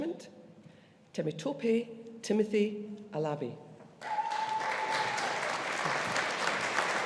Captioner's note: audience applauding